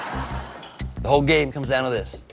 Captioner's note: laughter